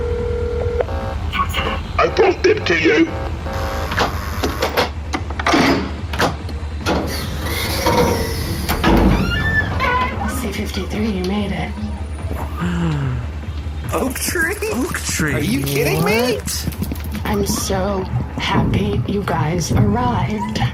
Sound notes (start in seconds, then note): 12.6 Nermut gasps